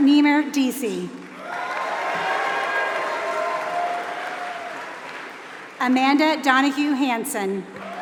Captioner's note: applause; applause